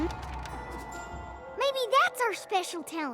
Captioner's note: wind rushing